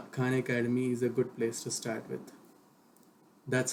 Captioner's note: click